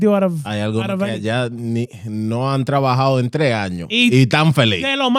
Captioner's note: speaking In Foreign Language